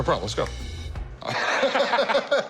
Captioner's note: chuckles